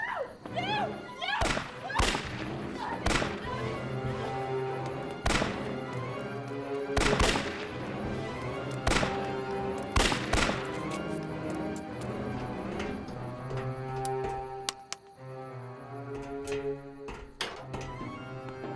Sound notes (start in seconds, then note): 1.4 gunshots continue firing; 5.3 gunshots continue firing; 6.6 suspenseful dramatic music; 8.9 gunshots continue firing; 13.0 staircase rattles; 13.7 gun clicks; 13.9 hand taps; 15.8 staircase rattling